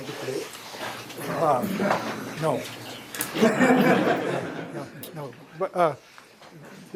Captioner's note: laughter